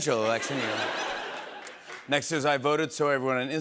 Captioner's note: laughter